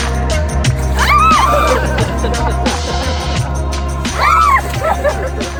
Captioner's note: screaming and laughing; screaming